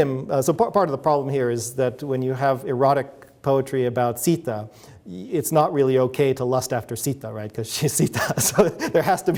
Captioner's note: chuckles